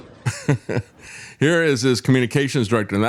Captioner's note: laughing